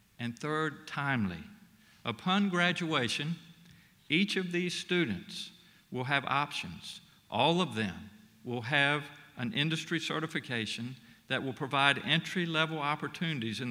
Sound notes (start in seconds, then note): none